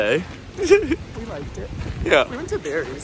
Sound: laughing

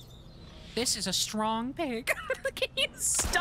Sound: laughter

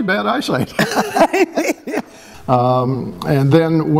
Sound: laughter

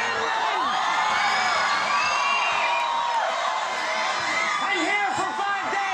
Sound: crowd cheering

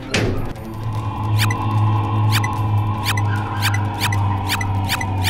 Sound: numbers beeping

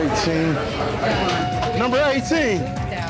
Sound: whistle

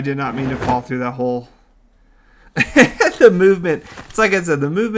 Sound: laughs

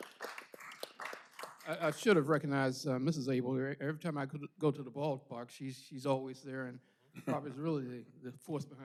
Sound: applause

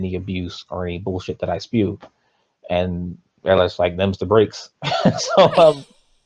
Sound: laughs

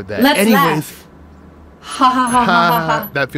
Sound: laughs

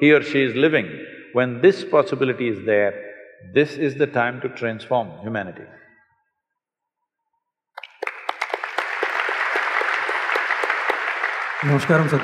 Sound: applause

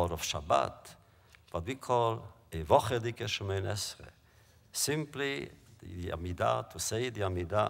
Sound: Yiddish

